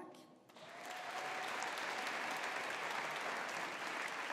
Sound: audience applauding

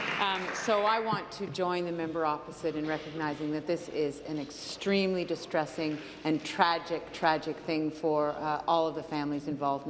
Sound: applause

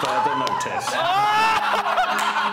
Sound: laughing

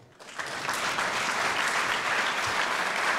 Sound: applause

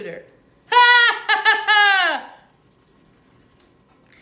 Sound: laughing

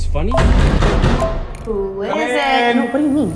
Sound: phone chiming

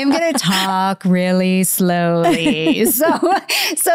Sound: laughing; laughs

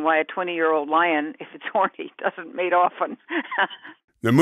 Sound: laughing

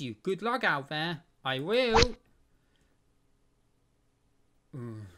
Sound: rod sound

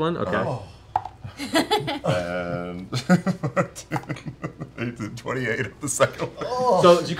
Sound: laughing

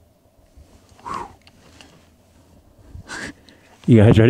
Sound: exhales

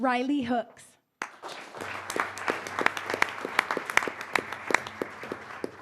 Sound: applause; applause

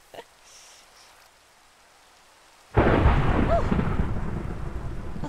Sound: thunder

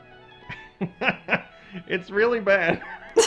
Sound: chuckles; laughs

